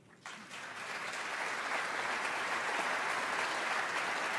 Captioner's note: audience applauds